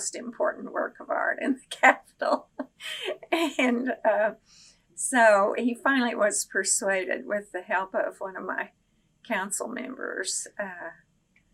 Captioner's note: laughs